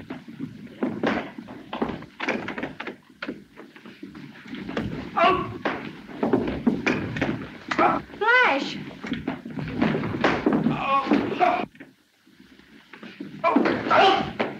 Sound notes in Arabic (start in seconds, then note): 5.0 ريك يتأوه; 9.0 أصوات ارتطام